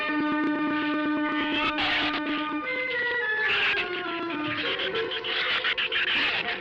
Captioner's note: shrew squeaking